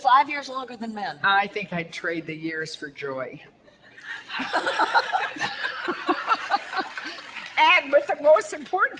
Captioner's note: audience laughter